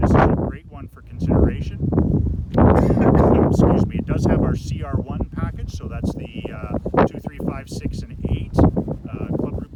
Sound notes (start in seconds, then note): 0.0 windy; 2.7 cough